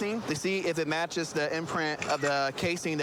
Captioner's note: camera app clicks